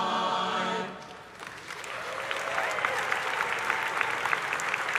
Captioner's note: audience applauding